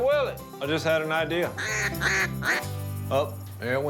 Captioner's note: quacking